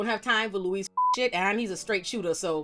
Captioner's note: beep